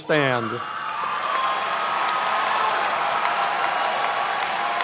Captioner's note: applause